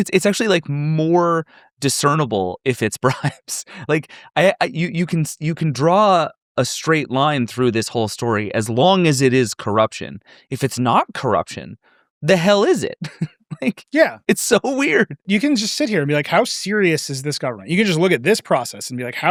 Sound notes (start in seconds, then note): 12.8 chuckles